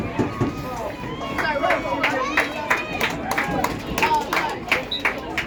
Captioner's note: applause; whistle blows